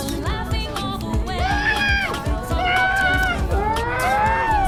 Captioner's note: muffled shouting